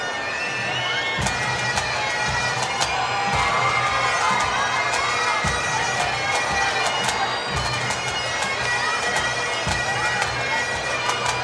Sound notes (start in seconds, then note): 1.9 cheers and Applause; 9.0 drums and bagpipes